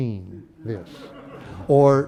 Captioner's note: laughter